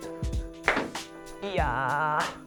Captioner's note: gunshot pops